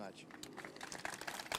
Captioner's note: applause